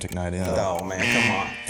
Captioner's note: buzzer